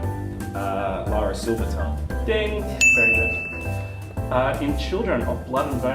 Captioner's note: ding!